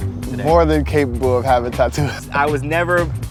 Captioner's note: laughs